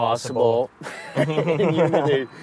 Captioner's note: both laugh